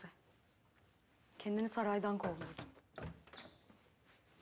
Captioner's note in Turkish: Kapı tıklanma sesi